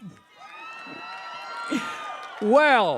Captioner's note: cheering